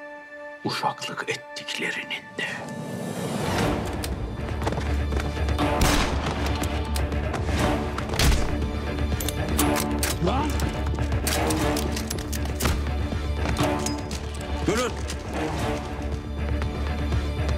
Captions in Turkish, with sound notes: ...uşaklık ettiklerinin de... [Çatışma müziği] [Silah sesi] Lan... Durun.